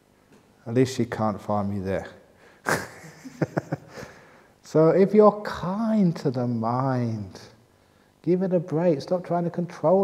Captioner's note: laughs